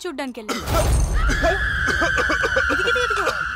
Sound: coughs and splutter

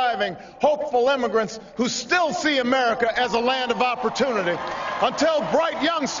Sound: applause

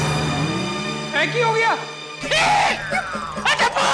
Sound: suspenseful music plays; Jethaa screams

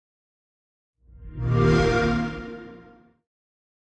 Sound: xbox sound

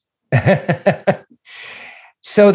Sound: laughing

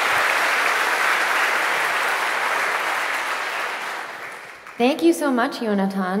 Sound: applause

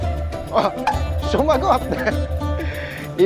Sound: laugh

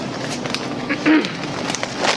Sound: clears throat

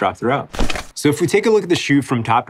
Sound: paper crumpling

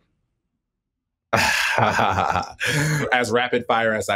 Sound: laughs

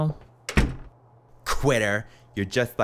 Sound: door clicks

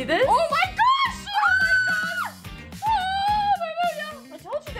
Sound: screaming

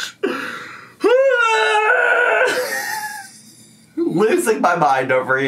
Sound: screaming

